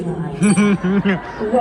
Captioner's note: ding!